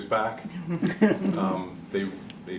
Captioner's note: laughter